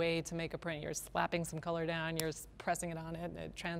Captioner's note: smack